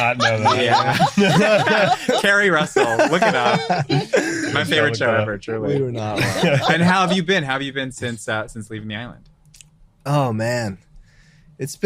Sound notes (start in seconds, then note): 5.9 group laughs loudly; 6.1 laughs loudly